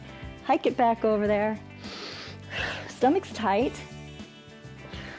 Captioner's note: inhales